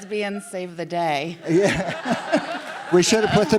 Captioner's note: the audience laughs